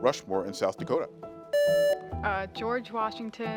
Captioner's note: buzzer beeps